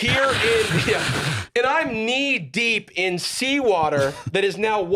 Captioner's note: imitating wind